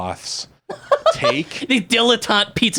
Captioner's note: laughs